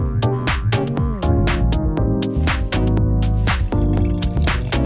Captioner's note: upeat music; bubbling